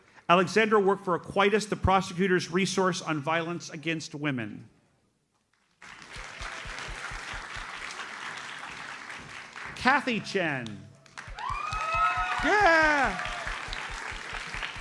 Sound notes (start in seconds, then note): 5.8 audience applauds; 11.0 audience cheers and applauds